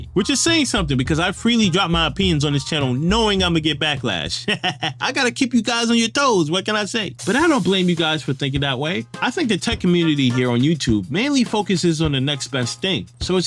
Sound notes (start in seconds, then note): 4.4 laughing